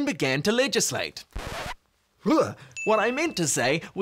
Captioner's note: record scratching